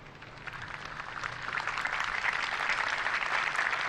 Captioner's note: applause